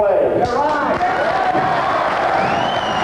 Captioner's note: applause